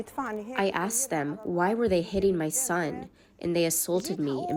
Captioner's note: through translator